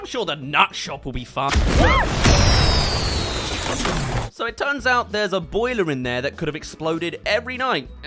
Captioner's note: explodes